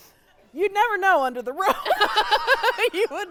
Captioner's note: laughing